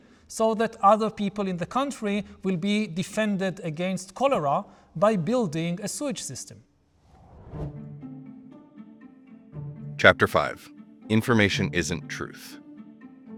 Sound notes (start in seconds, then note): 7.0 graphics whooshing